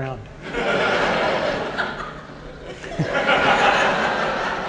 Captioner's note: audience laughing